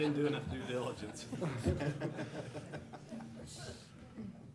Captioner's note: laughter